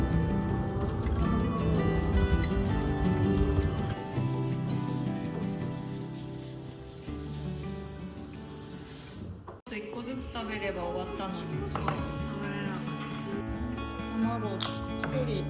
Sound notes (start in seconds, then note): 4.9 sound of everyone cooking dinner together